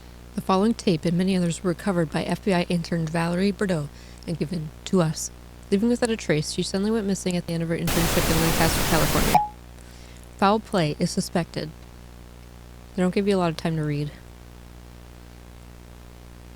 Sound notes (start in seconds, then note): 7.8 loud static